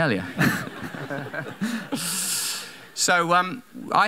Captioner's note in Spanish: Risa de la audiencia